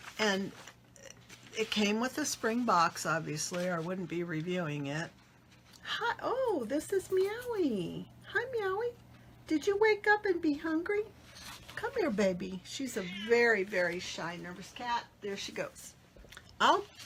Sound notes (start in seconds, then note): 12.9 cat meowing